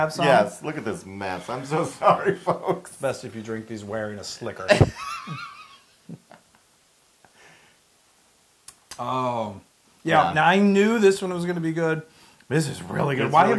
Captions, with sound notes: >> Yes, look at this mess, I'm so [LAUGH] sorry folks! >> Best if you drink these wearing a slicker. >> [LAUGH] >> Yeah, I knew this one was going to be good, but this is really good. >> It's really good.